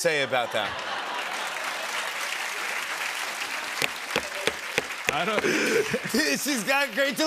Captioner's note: laughter and applause